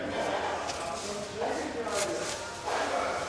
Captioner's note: soft voices in the background